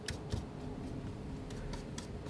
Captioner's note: scratching